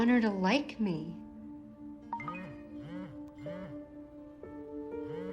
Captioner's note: phone chimes, vibrates